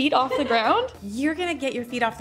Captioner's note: laughing